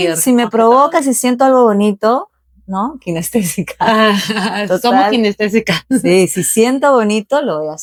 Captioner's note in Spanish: risas